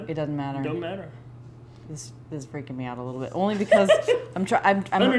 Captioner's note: laughs